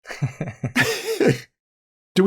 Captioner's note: laughter